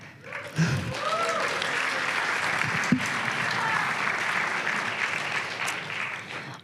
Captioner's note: applause and cheering